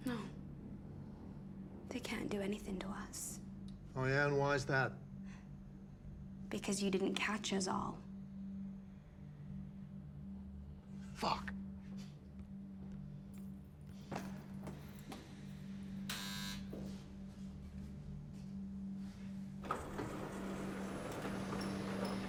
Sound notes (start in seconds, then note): 16.1 door lock beeping; 19.5 dramatic music